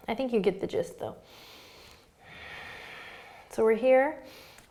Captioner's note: breathing